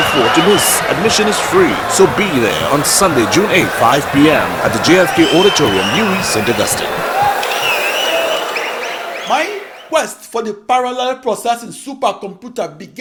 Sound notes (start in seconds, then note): 4.1 wild applause and cheering for 22 seconds